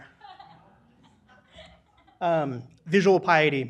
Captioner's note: audience laughs